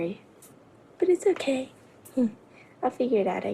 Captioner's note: none